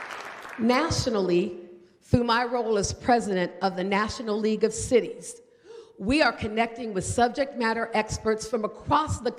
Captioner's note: applause